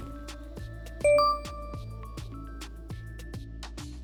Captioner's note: bell rings